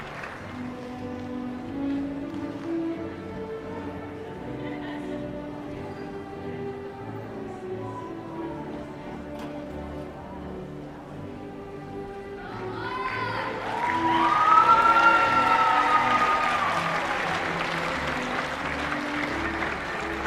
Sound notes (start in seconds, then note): 13.5 applause